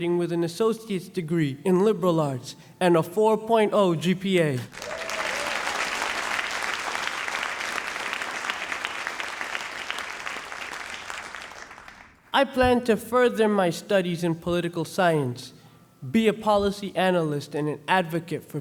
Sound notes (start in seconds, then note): 4.7 audience applauding